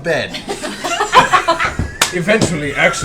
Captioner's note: laughter